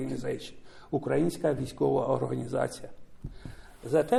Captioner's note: speaking ukrainian